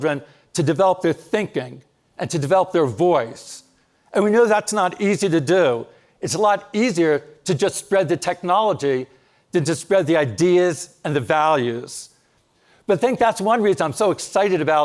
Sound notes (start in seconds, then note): none